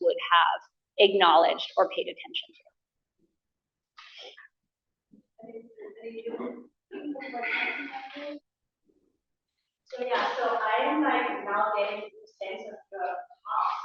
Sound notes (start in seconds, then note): 5.4 student background chatter